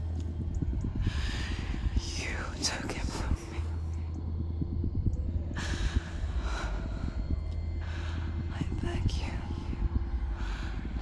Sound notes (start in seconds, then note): 2.2 whisper